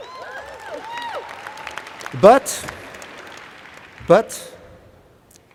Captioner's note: applause